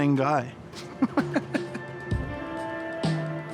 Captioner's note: chuckles; intriguing music